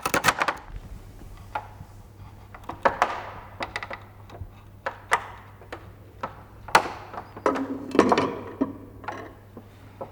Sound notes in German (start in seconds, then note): 2.7 Pochende, knarzende Geräusche